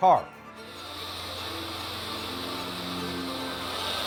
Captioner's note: polisher whirring; intense orchestra music